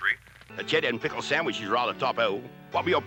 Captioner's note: britishly